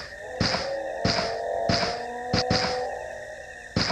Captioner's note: distant howling